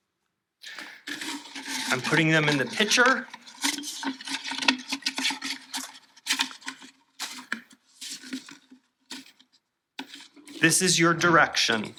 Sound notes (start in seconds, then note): 4.6 paper crinkling noises